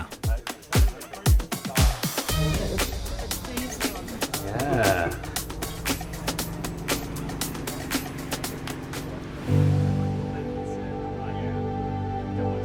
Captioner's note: train noises